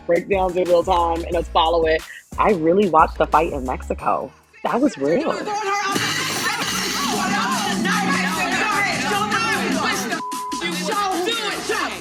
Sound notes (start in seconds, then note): 5.2 soundbite of archived recording